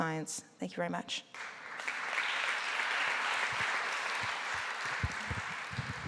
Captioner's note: applause